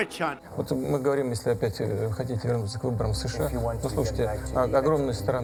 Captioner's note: speaking foreign language